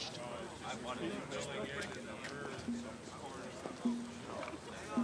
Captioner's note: crowds chattering